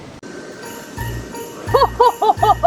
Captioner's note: bells jingling